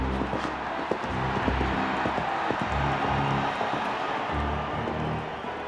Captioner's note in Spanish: multitud aclamando; música siniestra